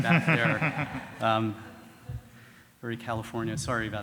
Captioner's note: audience laughing